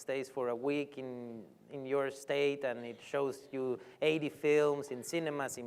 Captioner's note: none